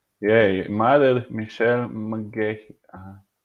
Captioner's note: laughing